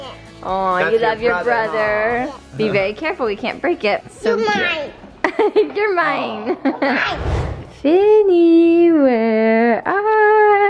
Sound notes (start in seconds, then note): 6.2 laughs